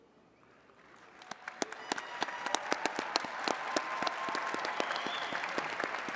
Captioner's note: attendees cheering and clapping